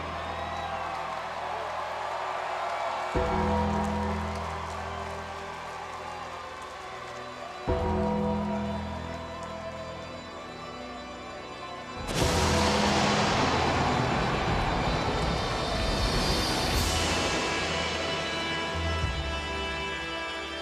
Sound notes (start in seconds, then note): 1.2 audience cheering; 12.1 lightning crashing; 17.0 ominous music continues